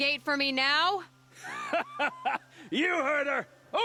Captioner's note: laughs